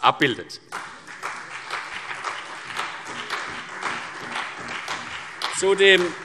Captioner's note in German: Beifall CDU und BÜNDNIS 90/DIE GRÜNEN